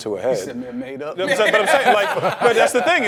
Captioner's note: all laughing